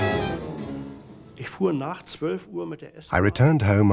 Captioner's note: speaking german